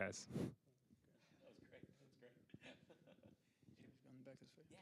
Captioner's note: chuckles